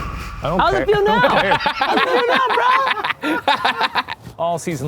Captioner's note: eerie music; laughing